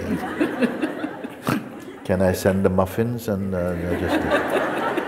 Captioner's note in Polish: śmiech